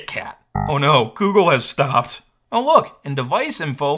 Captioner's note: computer dings